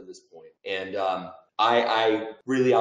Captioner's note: laughing